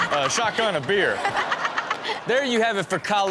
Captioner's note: Chanel and audience laughing